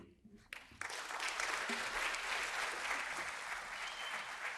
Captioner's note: audience applauding